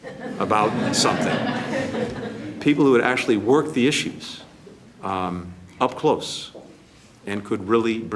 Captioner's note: laughter